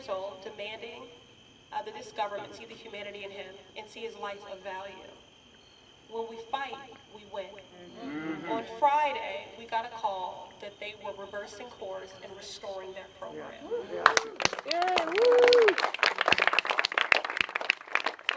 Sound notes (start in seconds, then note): 7.6 murmurs of agreement; 13.8 applause and cheers